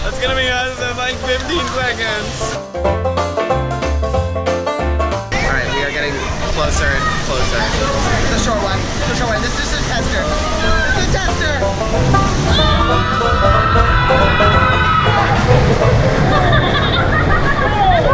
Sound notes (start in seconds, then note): 2.9 upbeat banjo music; 12.4 screaming; 16.0 laughter